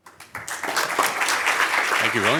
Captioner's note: applause